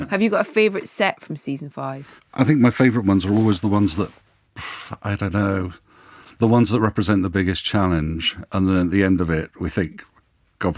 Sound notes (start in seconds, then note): 4.6 sighs